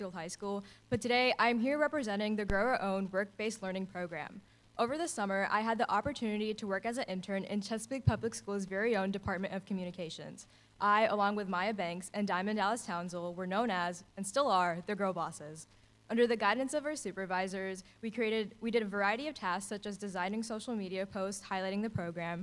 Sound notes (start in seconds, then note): none